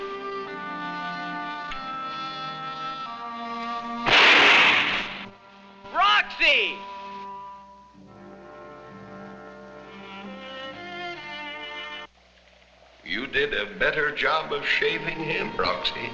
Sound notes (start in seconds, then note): 4.0 gun firing